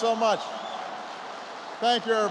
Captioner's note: applause